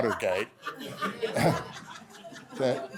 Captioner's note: laughter